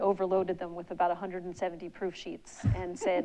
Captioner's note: giggles